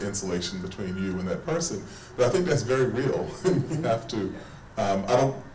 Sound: chuckles

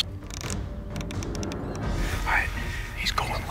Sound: turret clicking

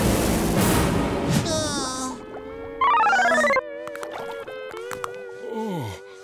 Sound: groaning

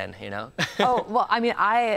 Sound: chuckles

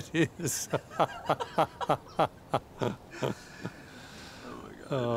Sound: both laughing

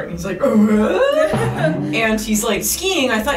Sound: confused sound

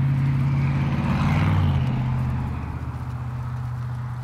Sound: engine humming

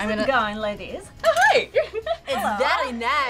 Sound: laughs

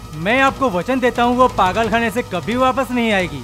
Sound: none

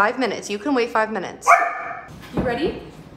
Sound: Gus barking

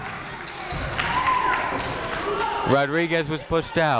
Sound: crowd applauding

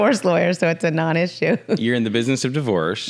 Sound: laughs

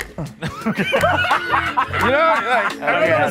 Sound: group laughing

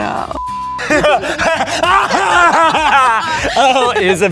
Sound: insane laughter

